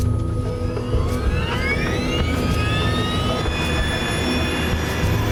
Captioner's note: engines whining up